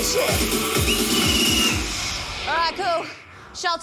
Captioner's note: whistle trills, music stops